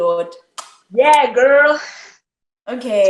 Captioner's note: kisses hand